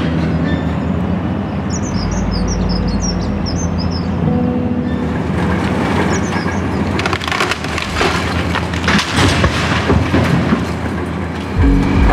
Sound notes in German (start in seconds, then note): 2.0 Vogelgezwitscher; 5.0 Abrissgeräusche